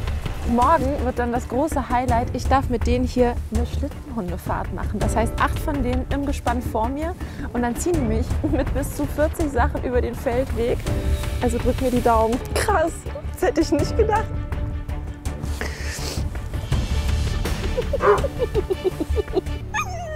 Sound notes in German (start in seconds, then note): 15.4 Schluchzen; 17.5 Lachen und Bellen